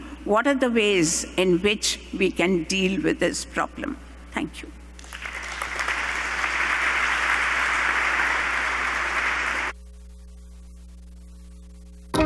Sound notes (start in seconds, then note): 5.0 applause